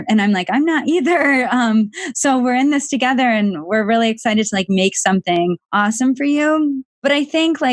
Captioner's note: laughs